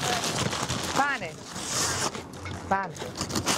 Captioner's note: in Italian